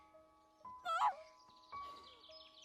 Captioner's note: sobs